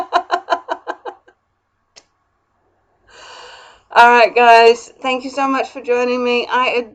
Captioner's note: laughs